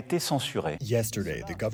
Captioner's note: through translator